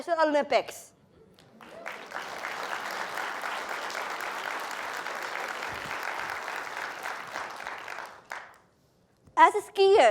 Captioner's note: applause